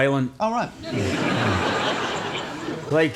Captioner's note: audience laughs